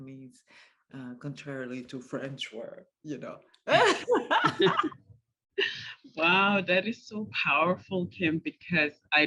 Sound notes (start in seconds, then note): 3.7 laughter